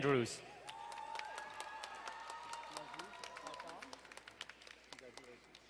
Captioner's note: crowd cheering and applauding